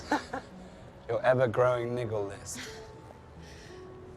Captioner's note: Eloise laughing